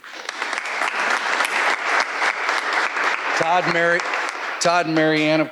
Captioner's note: audience applauding